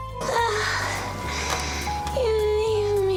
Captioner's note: Lulu groans